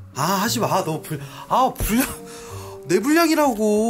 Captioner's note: almost crying